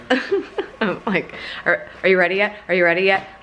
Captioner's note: laughs